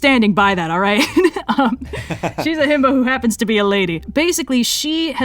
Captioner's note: laughs